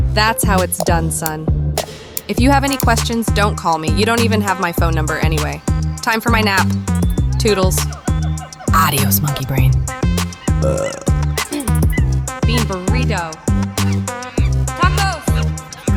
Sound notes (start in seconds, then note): 10.6 burp; 11.5 clears throat